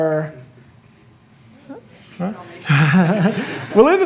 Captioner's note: laughter